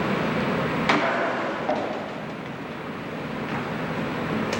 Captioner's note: sound of footsteps